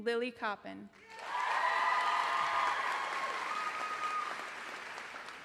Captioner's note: applause